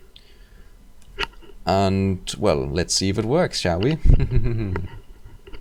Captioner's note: chuckling